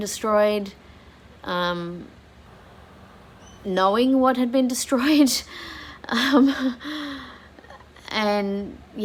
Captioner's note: wry laugh